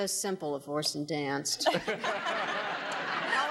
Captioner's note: audience laughing